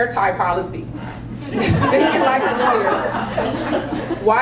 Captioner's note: laugh